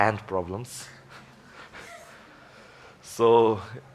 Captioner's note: laughs softly